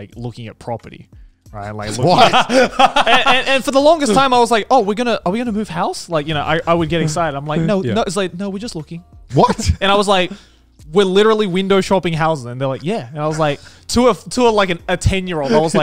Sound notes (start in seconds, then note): 1.9 laughing